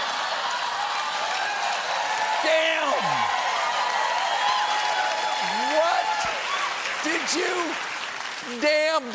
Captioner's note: cheers and applause